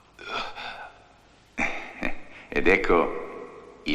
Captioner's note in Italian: sospiri